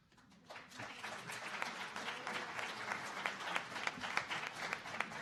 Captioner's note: audience applauding